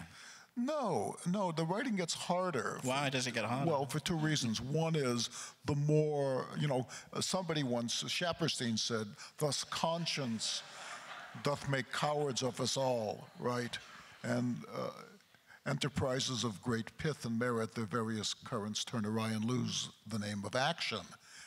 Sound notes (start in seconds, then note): 10.2 crowd laughs